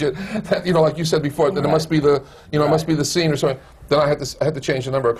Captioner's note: laughs